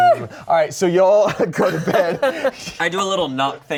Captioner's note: laughing